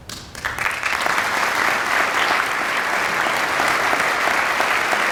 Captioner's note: audience applauding